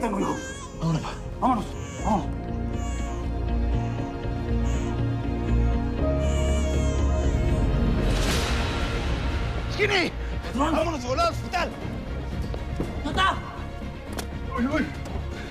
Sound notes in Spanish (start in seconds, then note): 3.1 Llanto de la bebé